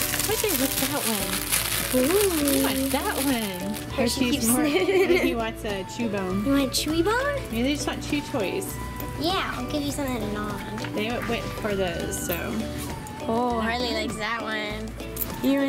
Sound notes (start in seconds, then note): 4.5 chuckles